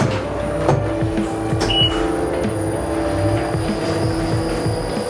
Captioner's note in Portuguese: máquina ligando